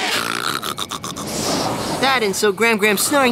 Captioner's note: snoring